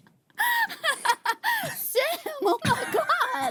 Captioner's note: laughing